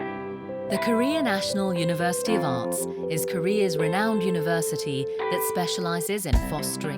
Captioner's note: voiceover